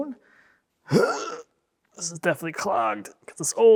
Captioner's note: grunts